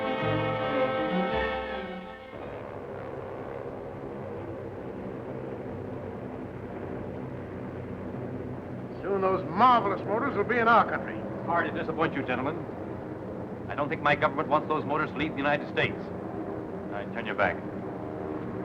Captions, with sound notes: (engines whirring) - Soon those marvelous motors will be in our country. - Sorry to disappoint you gentlemen. I don't think my government wants those motors to leave the United States. All right, turn your back.